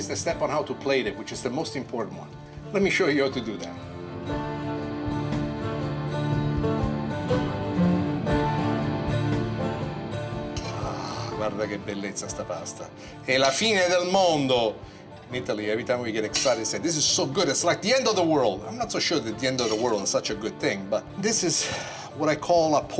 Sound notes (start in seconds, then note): 4.0 western banjo music; 11.2 in Italian